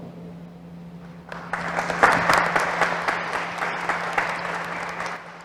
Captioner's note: applause